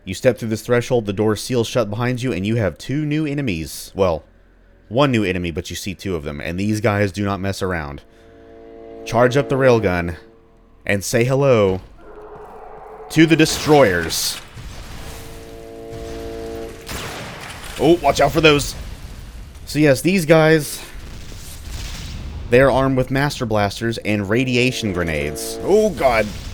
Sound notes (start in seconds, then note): 8.1 chargeup sound; 11.1 loud, enraged howl; 15.0 bam; 24.2 railgun charge, grenades clattering